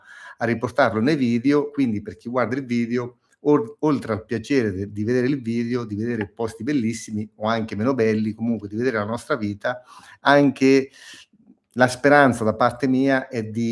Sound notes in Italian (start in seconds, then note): 11.1 sbuffare